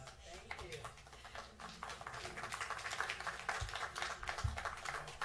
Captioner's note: applause